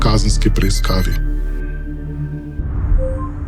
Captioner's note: sound of messages